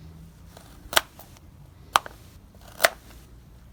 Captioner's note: loud chopping